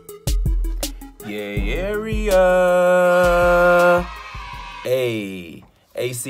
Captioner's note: cheering